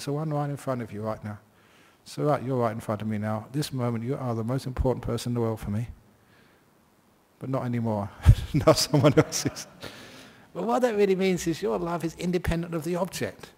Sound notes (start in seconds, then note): 8.7 laughs